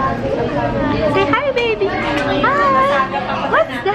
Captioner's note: baby talk